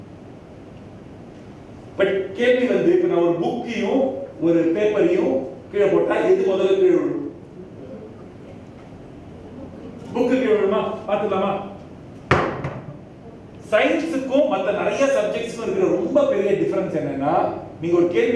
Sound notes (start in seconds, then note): 7.4 audience murmur